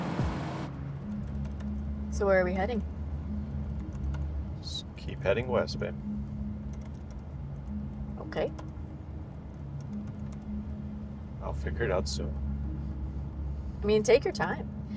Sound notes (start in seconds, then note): 0.9 keyboard clacking